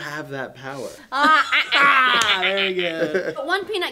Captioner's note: imitates orca sound as laughter